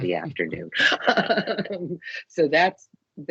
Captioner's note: laughing